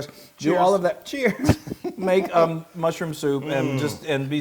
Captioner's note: laugh